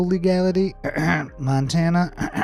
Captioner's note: clears throat